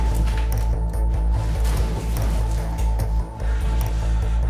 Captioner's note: other door slams; body sliding down wall